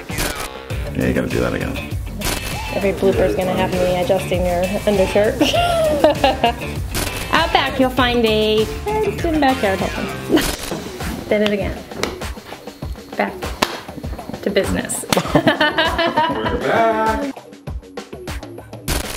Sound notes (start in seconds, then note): 4.9 laughs; 12.5 smacking; 13.6 smack; 15.1 laughter